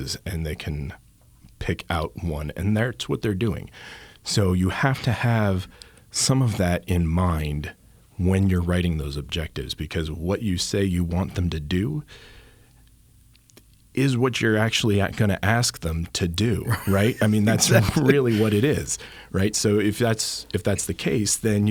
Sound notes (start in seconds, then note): 16.6 laughs